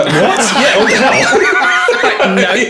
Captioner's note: laughing